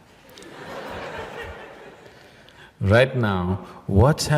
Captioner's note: laughter